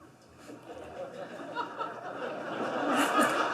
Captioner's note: laughter